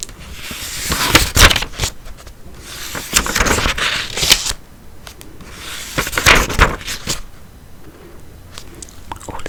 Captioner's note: turning pages